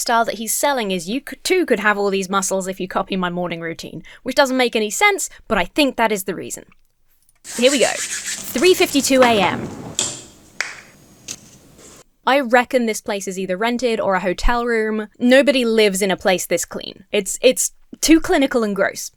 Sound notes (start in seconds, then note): 7.5 hands scraping together; 8.5 drawer rattles; 10.6 toothpaste cap pops